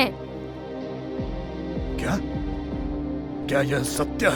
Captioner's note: surprised